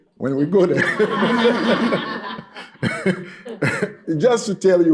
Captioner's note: laughter